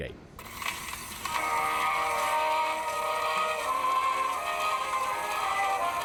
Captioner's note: record needle whirring; gentle music